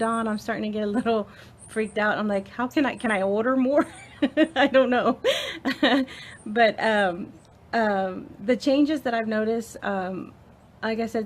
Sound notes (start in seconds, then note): 3.8 laughs